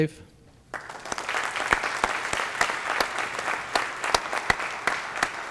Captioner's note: applasue